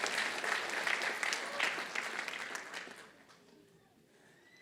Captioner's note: applause